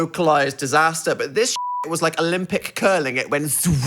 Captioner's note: beep